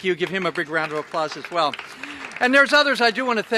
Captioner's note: applause